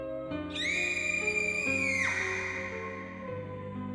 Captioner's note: girl screaming